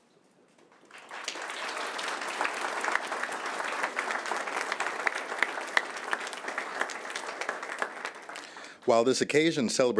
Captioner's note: applause